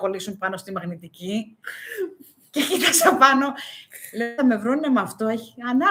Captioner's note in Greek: γέλια